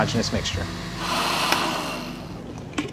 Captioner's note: blenders stopping